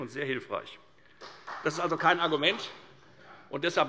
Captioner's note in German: Beifall des Abg